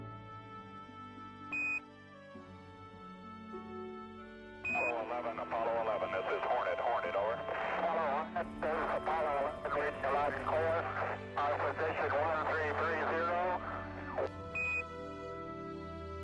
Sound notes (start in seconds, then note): 1.6 beeping sound; 7.7 garbled radio communication; 14.5 beeping sound